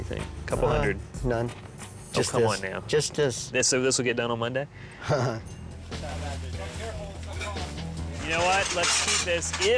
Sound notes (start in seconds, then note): 5.0 chuckles; 5.8 workers chattering